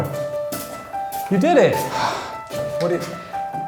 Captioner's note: sighing